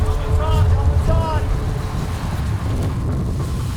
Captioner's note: shouting